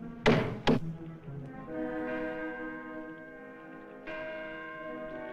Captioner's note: clock Chiming